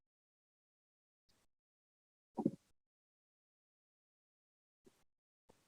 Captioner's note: silence